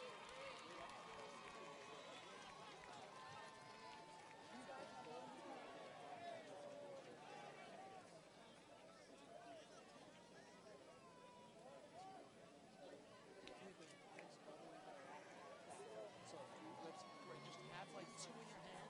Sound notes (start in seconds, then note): 5.3 audience chatters